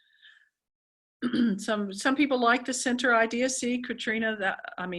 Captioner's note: cough